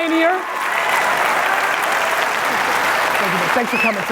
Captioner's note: audience applauding loudly